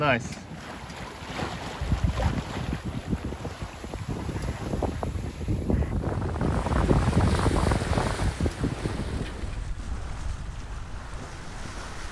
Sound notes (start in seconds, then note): 1.6 sea and wind noise